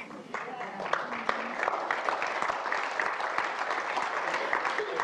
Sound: audience applauding

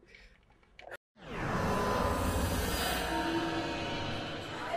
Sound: echo rings

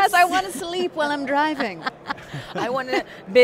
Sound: laughs

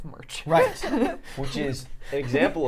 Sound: laughing

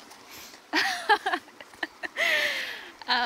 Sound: laughs

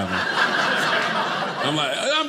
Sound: audience laughing

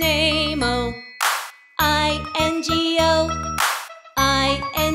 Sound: claps; claps

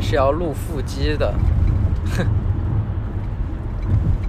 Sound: snickering ensues

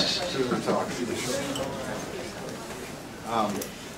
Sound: background chatter

